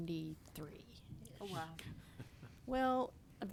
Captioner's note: chuckles